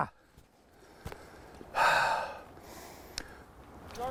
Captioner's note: sighing